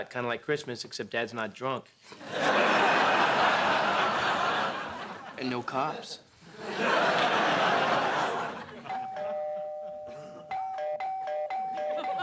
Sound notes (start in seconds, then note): 8.8 rings repeatedly; 8.8 doorbell rings